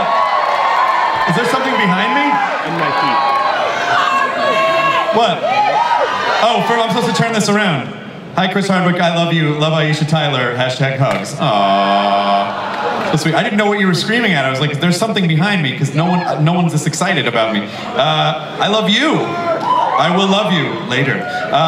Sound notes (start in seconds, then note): 2.7 audience cheers